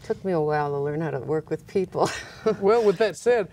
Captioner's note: laughs